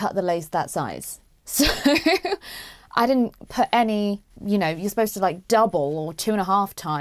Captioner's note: laughs